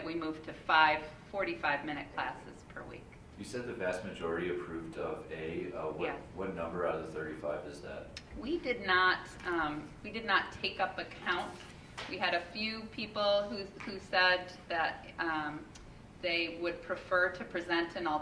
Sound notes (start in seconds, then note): none